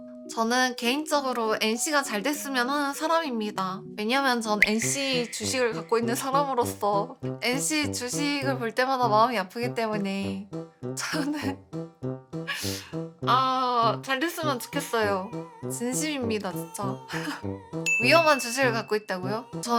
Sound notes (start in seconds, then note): 11.0 choked up